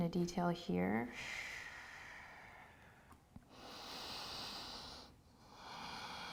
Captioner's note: breathes deeply